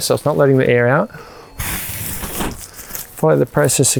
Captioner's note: blows air into the pump sack